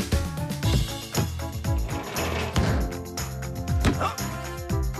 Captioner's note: ball Thumping